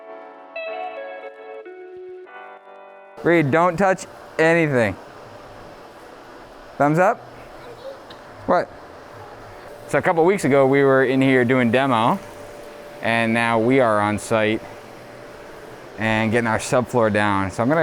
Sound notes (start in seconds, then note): 0.0 light music; 7.7 speaks faintly